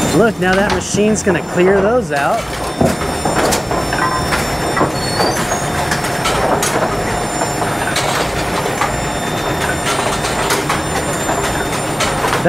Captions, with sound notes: Look, now that machine's gonna clear those out. (machine whirring) (pins clattering)